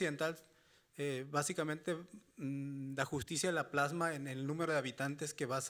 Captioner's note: speaking Spanish continues